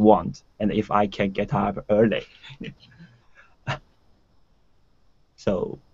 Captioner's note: laughing